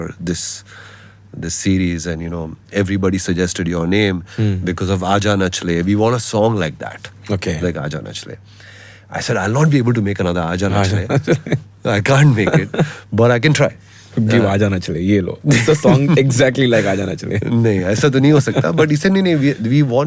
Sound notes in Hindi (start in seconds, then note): 10.8 हंसी